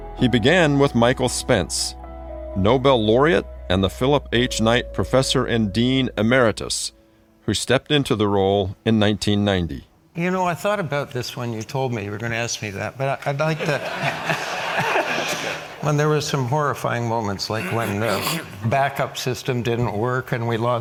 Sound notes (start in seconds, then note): 13.6 audience laughs